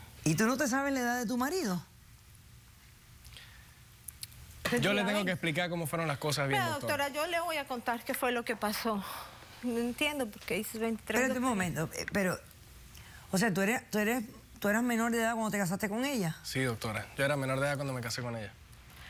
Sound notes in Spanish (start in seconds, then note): 4.6 ella dice algo entre dientes